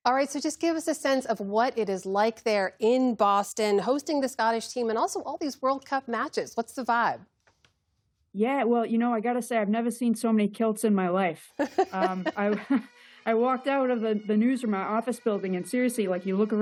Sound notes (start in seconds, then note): 11.6 laughter